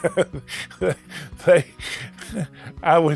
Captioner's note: laughing